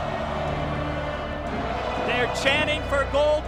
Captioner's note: crowd chants